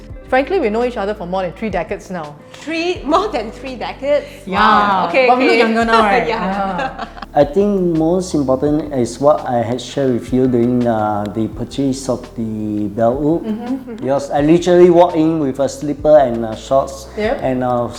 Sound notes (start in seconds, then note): 5.8 laughter